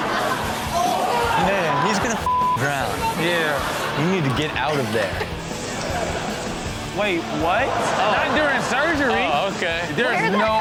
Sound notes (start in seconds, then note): 0.0 audience laughs; 2.2 beep; 5.9 audience laughs